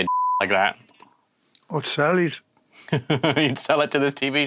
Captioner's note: Jack laughs